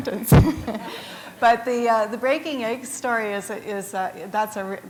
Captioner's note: laughter